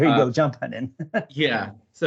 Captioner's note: laughs